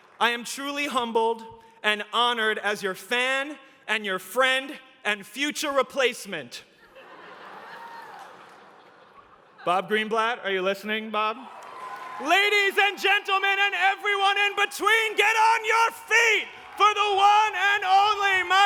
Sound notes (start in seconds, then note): 6.7 laughter